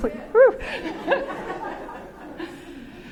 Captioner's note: laughter